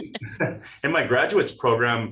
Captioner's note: chuckles